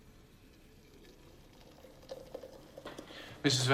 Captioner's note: water splashes